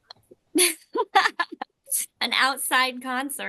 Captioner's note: people laugh